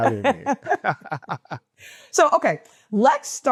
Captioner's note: chuckling